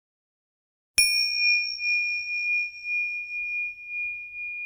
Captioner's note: bell chimes